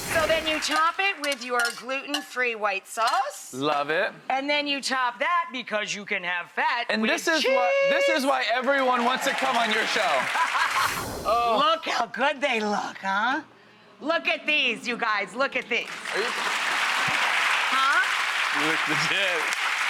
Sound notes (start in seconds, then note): 10.3 audience applauds; 10.3 laughs; 15.8 audience applauds and cheers